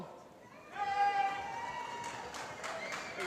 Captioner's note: applause